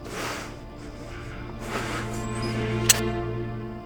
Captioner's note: gun clicks